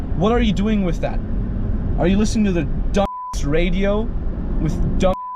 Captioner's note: beep